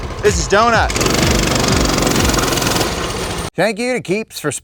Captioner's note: motorcycle engine revving